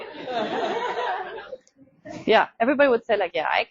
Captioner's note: audience laughing